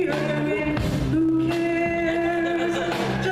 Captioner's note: laughter